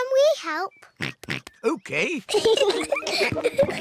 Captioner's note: giggles; oinks; peppa and george giggle